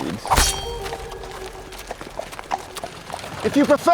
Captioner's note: blade slashes